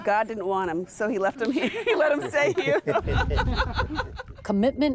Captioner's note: laughs